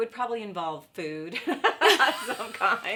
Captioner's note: laughs